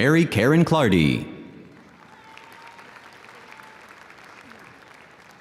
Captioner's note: audience applauding